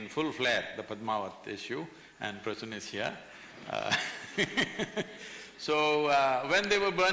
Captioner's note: laughs